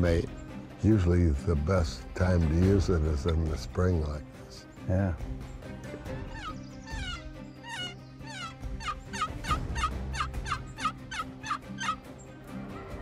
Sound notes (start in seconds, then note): 5.1 turkey call; 11.4 turkey gobbles